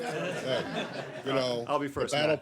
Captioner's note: laughter